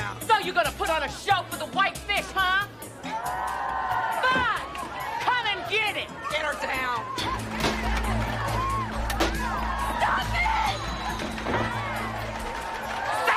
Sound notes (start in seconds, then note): 3.5 inmates cheering; 7.0 dramatic music continues